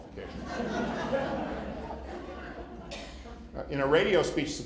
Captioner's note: laughter